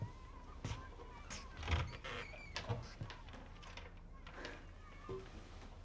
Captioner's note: kids chattering in distance